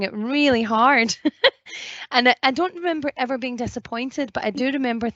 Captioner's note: laughs